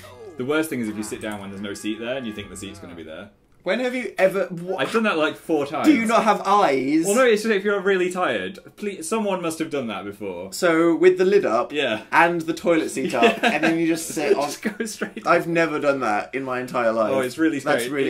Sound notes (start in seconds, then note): 13.0 giggling; 13.0 laughing